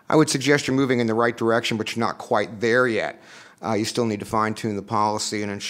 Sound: none

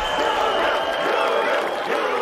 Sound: whistling

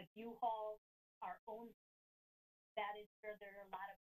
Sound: audio cuts

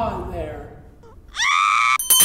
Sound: scream

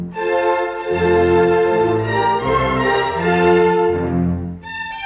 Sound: none

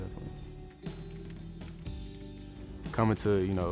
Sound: computer keys clacking

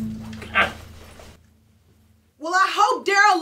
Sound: door closes

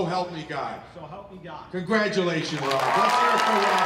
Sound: cheers & Applause

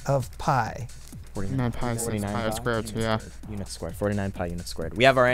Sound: wispering

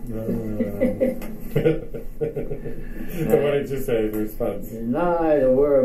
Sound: chuckles

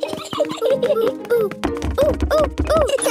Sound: laughs

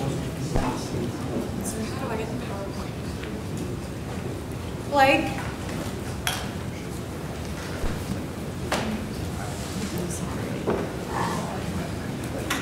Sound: background Discussion

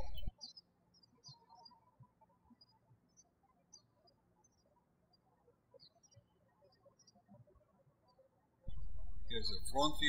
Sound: birds chirping

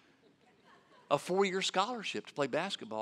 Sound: audience laughing

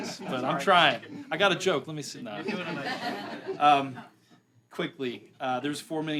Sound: laughter

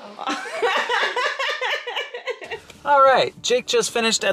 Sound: laughing

